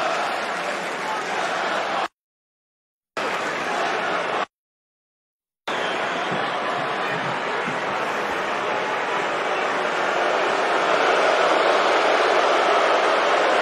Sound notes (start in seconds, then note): 1.1 crowd chanting